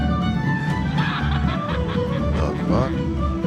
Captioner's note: cackling